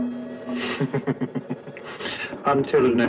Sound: laughs

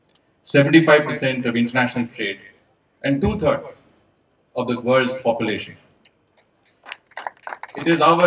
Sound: applause

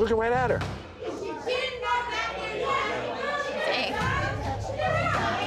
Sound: girls shouting

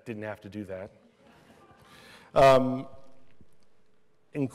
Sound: laughter

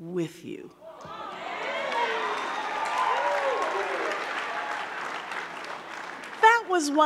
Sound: audience cheering; audience clapping

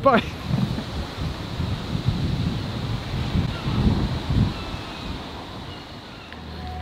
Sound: wind

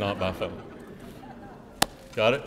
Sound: laughing

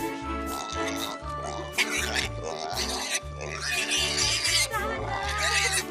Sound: pig snorting, squealing

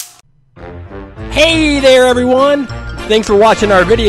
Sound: voiceover

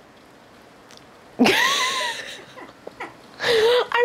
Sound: awkward laughter

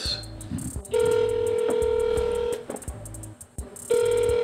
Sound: phone ringing

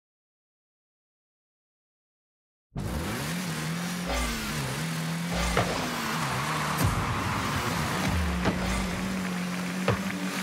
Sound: vroom

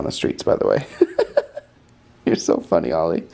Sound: laughing

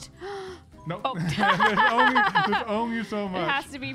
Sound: laughs

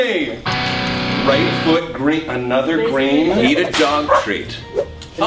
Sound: electric guitar; dog barks

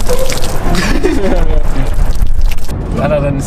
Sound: laughter

